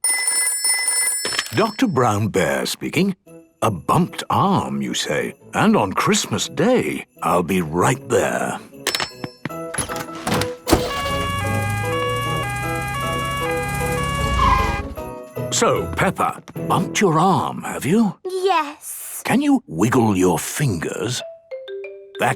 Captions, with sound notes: - (ringing) - Doctor Brown Bear speaking... A bumped arm you say? And on Christmas day! I'll be right there! - (siren sounding) - So, Peppa! Bumped your arm have you?! - Yes... - Can you wiggle your fingers? - (wiggle music)